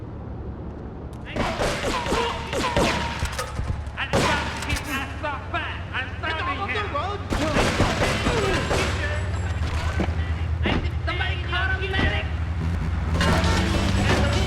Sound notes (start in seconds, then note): 1.3 gun firing